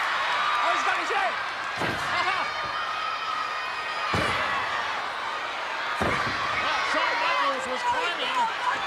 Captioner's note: applause